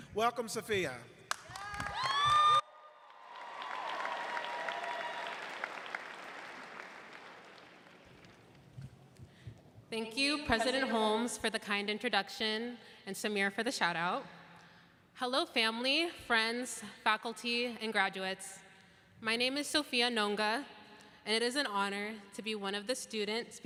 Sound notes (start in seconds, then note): 5.4 applause